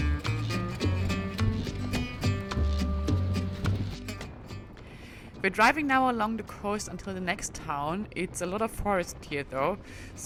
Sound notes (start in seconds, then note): 0.0 upbeat music; 4.6 wind whooshing